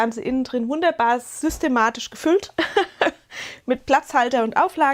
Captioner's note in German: Gelächter